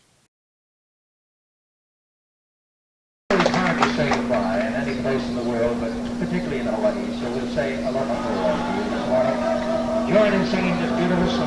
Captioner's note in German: Teilweise sind die Laufgeräusche unserer Super8 Filmkamera zu hören